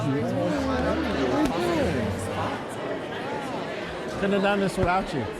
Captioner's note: distant chattering